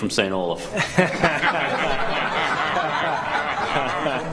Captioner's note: people laughing